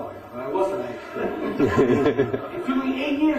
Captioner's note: laughter